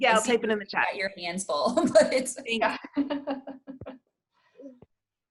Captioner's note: laughs